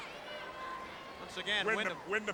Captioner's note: crowd bustling